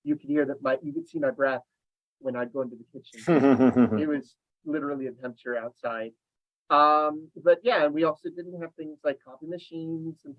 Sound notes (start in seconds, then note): 3.2 laughing